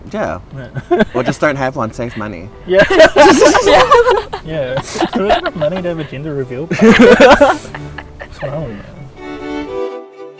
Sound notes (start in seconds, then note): 0.6 laughing; 2.6 laughing; 9.4 soft music